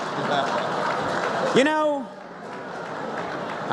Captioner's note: laughter